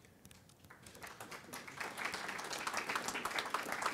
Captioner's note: applause